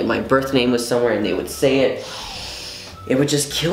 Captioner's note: inhale through nose